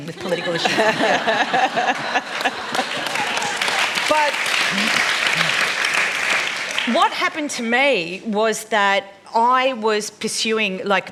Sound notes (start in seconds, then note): 1.7 laughter; 4.2 applause